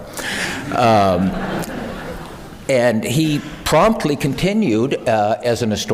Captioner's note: laugh